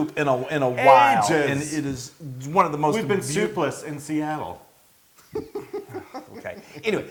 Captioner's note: laugh